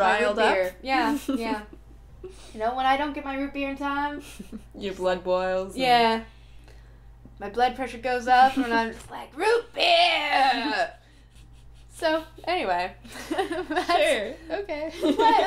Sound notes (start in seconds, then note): 13.1 laughing